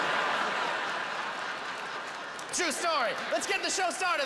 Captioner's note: howling laughter